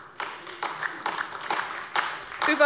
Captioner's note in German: Beifall AfD